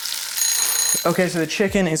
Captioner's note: timer ringing